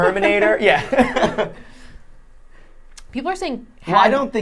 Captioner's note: laughing